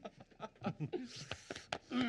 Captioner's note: laughing